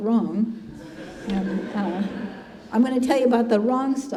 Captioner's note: congregation laughing